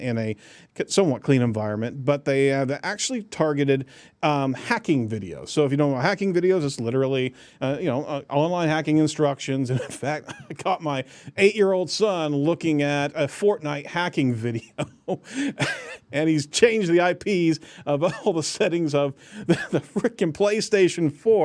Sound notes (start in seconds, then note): 14.6 laughing